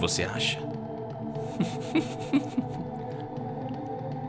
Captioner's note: chuckling